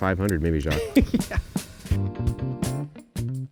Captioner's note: laughing; funky upbeat music